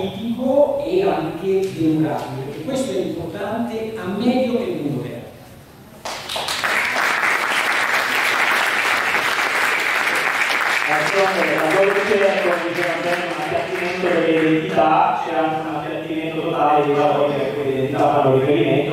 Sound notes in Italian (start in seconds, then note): 6.0 Applauso